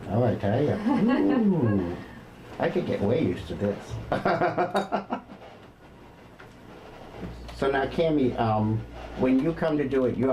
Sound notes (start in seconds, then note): 5.0 laughs